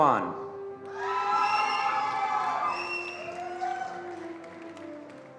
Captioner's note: attendees applauding